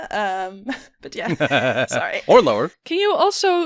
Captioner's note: laughing